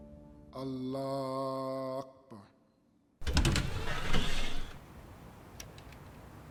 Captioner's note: Faizan speaking in foreign language